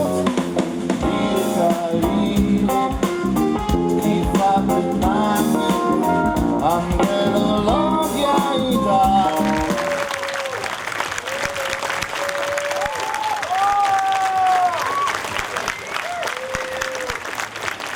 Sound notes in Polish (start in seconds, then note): 9.4 oklaski